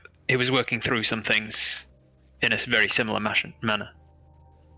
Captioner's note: none